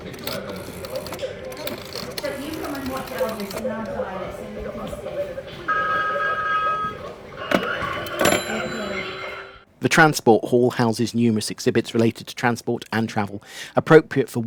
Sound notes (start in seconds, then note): 5.7 phone ringing; 8.1 bell of phone being hung up